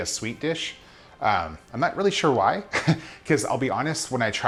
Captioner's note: laughing